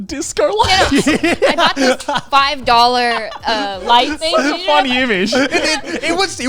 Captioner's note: all laughing